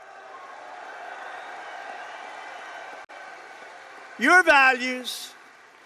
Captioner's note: applause